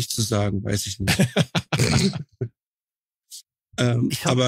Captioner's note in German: Lachen